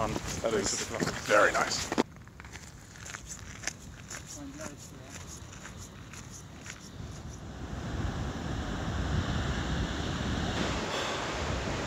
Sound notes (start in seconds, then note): 2.5 gravel crunching; 7.6 wind blowing